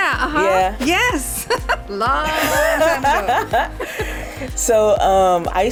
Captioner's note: both laugh